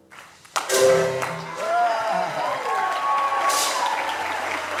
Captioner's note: audience applauding